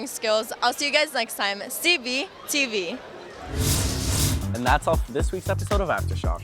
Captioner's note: swooshing sound